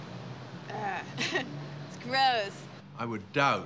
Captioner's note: laughing